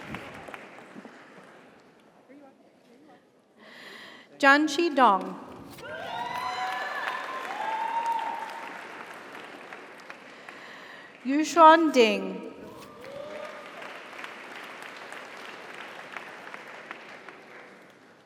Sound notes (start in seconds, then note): 0.0 audience applauds; 0.0 audience cheers; 5.8 audience cheers; 5.8 audience applauds; 12.8 audience cheers; 12.8 audience applauds